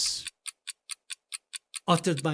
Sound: clocking ticking

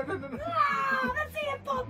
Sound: screams

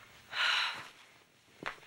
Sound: sighs

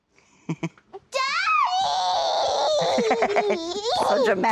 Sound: laughs

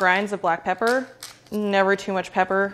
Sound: pepper grinder grinding

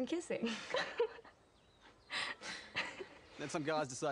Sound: giggling

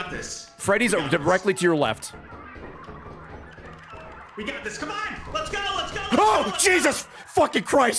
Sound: screams

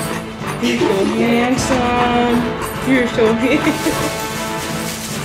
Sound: laughter

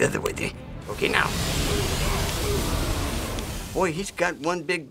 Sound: rushing water

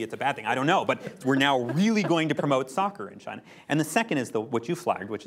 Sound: laughter

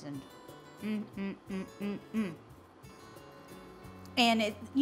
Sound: grunting

